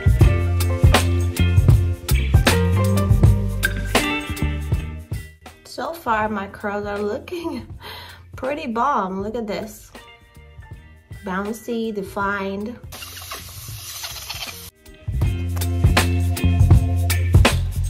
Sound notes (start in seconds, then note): 0.0 upbeat music; 12.9 water running; 15.0 upbeat music